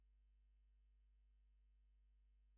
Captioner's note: none